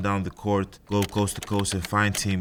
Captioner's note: keyboard clicking